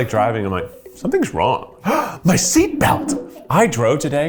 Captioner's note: gasps